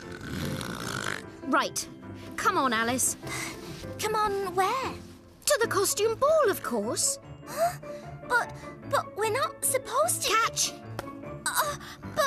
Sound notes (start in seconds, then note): 0.0 loud Snoring; 7.9 gasp!